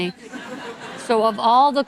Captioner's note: audience laughing